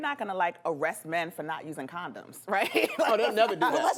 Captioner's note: laughs